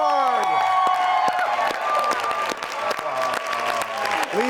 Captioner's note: audience cheers and applauds